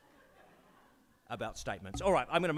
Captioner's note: audience laughs